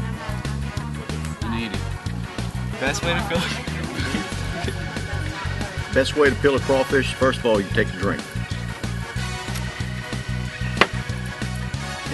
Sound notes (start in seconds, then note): 3.0 laughs